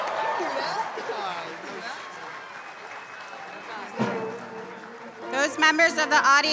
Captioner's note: applause